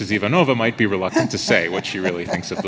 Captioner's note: laughs